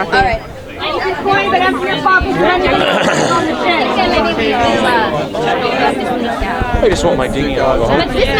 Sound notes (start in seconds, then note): 4.5 people chattering